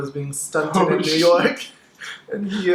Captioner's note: laughs